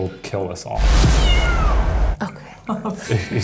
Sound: cat meowing

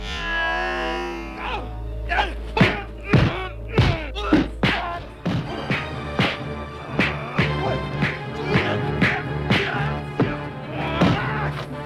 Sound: man yelling

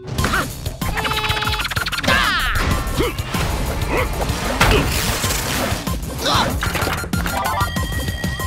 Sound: grunting

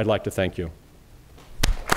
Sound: applause

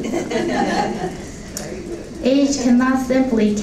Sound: laughter

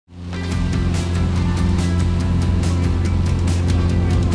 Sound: boat engine revving

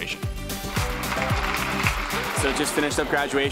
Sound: applause

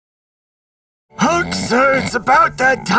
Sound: hulk snoring

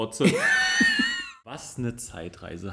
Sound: laughs

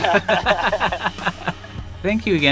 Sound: laughs

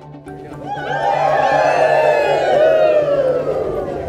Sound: cheering

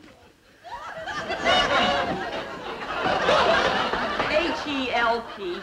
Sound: audience laughing

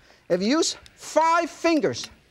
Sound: none

